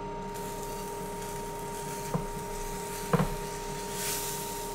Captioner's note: quesadilla sizzling